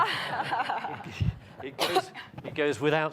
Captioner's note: audience and panelists laughing